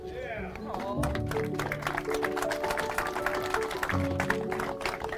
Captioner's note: crowd clapping